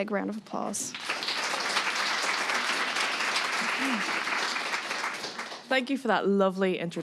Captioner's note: clapping